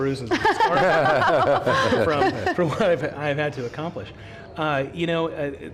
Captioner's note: laughter